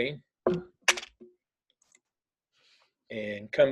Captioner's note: keyboard clicking